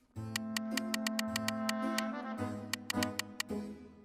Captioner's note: clicking